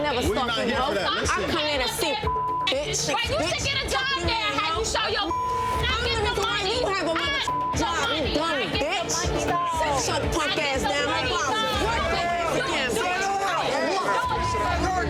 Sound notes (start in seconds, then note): 0.0 overlapping chattering; 5.1 beep; 7.8 overlapping chattering; 12.6 overlapping chattering